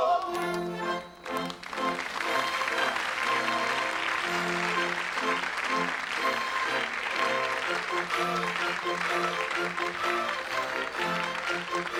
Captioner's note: applause